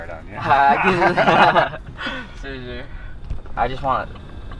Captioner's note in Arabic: يضحك